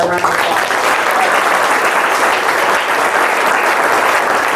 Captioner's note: audience claps